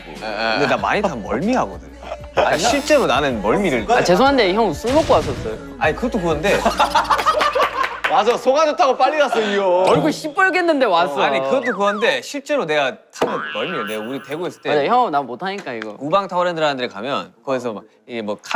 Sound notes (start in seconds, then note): 6.6 hahaha